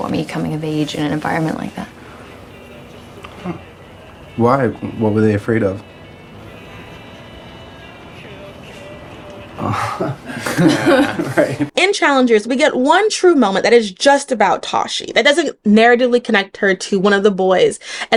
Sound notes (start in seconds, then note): 9.5 laughing